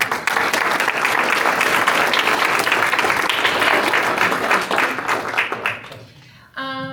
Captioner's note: applause